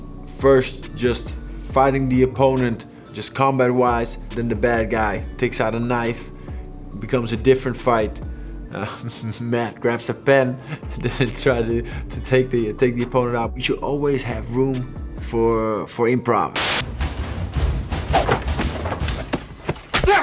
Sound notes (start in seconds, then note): 16.5 upbeat music; 16.6 static crackles; 16.8 thuds